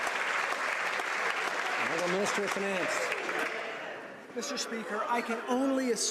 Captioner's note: some Applause